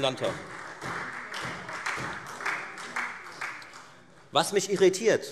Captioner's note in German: Beifall Freie Demokraten und SPD